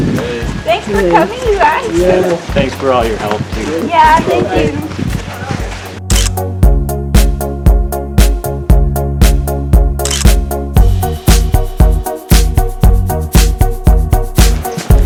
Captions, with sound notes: Thanks for coming you guys Thanks for all your help too Ya thank you (photoclick) (photoclick)